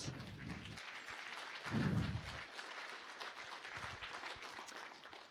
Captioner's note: applause